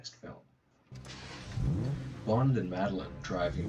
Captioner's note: engine starting